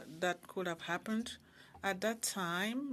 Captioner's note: speaking French